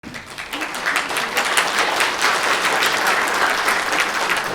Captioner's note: audience clapping